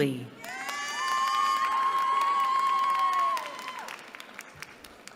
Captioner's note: cheering